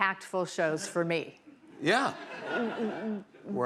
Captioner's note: laughter